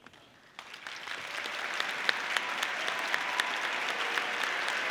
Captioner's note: audience applauding